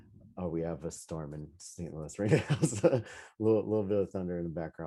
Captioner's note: laughing